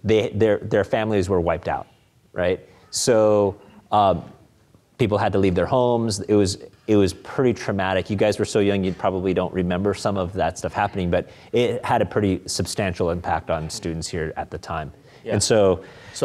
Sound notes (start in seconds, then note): none